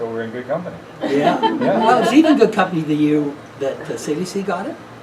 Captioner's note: laughing